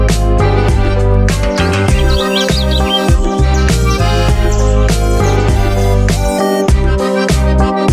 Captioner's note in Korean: 새 지저귀는 소리